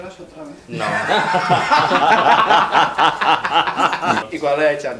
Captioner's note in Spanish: Risas